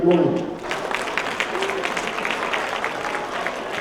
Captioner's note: applause